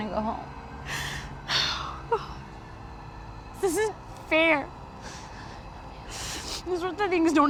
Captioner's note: sighs